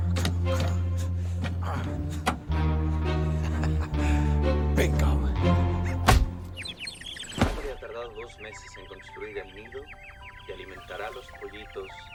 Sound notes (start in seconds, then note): 2.0 clicks; 2.0 laughs; 5.6 birds chirping; 7.3 man speaking Spanish on TV